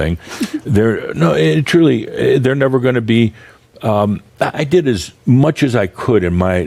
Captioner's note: giggles